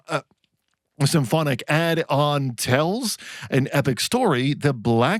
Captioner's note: sputters